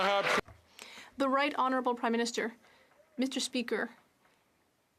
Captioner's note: some Applause